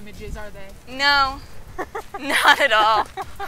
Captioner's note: laughing